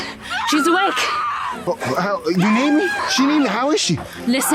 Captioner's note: screaming in distance